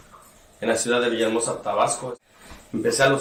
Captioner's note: speaking in Spanish